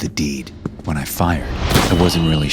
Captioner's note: gun bangs